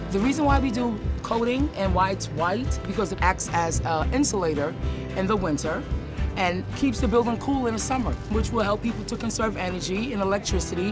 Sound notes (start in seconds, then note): none